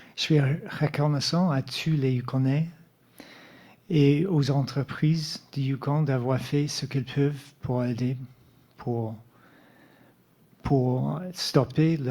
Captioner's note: speaking French